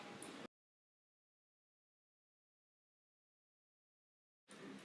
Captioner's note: silence